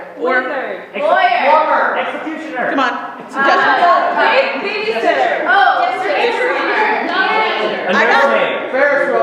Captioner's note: audience shouts suggestions